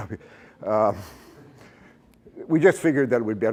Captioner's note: laughter